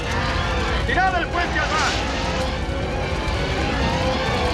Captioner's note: yelling; grandiose music